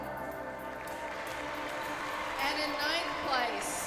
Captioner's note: cheers and applause